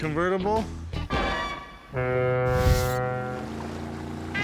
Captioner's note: foghorn